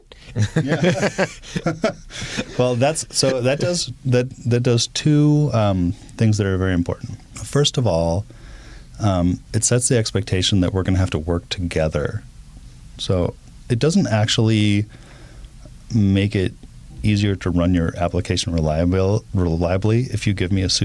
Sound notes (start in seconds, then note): 0.3 laughing